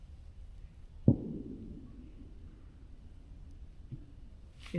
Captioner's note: fireworks Boom